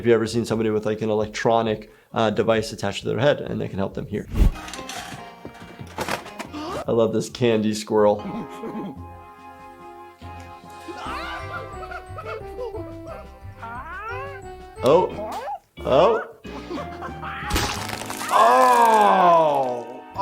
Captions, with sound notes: If you've ever seen somebody with like an electronic device attached to their head, and they can help them hear. I love this candy squirrel. (Nutty laughing gleefully) Oh. Oh! (Nutty's jaw snapping) Aw!